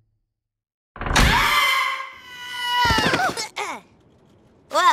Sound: both screaming

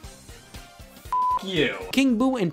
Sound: beep

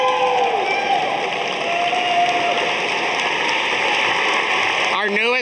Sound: audience applauding

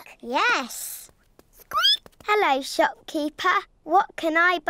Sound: squeaks

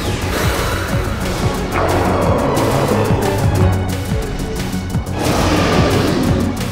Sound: growling; roars

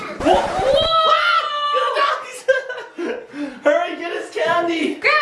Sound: parents screaming

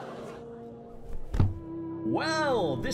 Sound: crowd gasps and murmurs; head slam

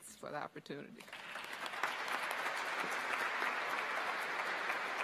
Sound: audience applauds

